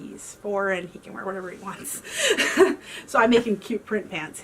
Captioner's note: laughs